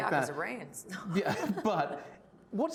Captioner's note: laughing